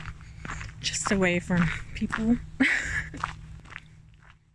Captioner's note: laughing